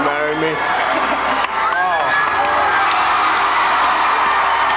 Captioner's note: audience cheering